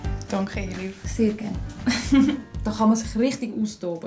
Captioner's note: laughs